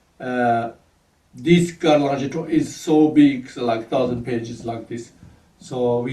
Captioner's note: tibetan